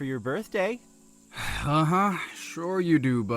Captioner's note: scoffs